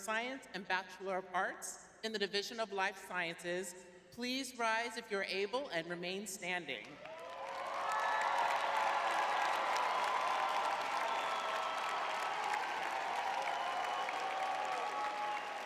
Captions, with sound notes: Science and Bachelor of Arts in the Division of Life Sciences please rise if you're able and remain standing? [crowd cheering]